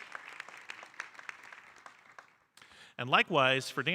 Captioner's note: audience applauding